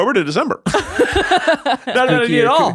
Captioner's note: laughing